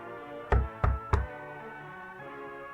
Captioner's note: Knocking